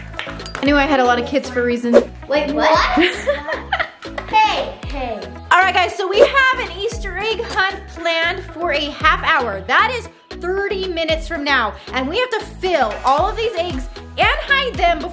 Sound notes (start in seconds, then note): 2.9 laughs